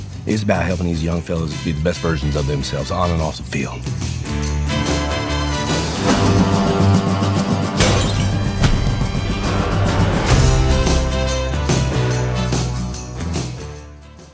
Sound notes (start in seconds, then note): 4.1 upbeat music; 7.7 glass shattering; 8.6 upbeat music